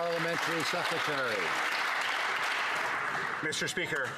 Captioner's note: some Applause